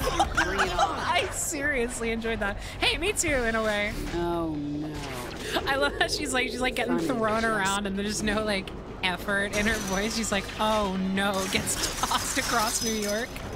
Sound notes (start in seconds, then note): 0.0 laughing; 4.2 sarcastically